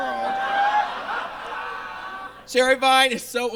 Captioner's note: audience laughs